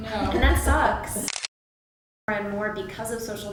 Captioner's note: camera clicks